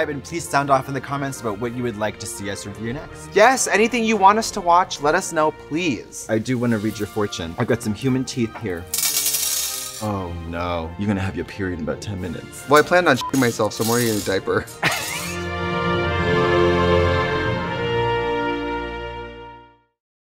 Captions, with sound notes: and please sound off in the comments about what you would like to see us review next. - Yes, anything you want us to watch, let us know please. - I do wanna read your fortune, I've got some human teeth here. (clanking) Oh no, you're gonna have your period in about 10 minutes. - Well I planned on (beep) myself so I'm already in a diaper. (laughing) (classical instrumental music)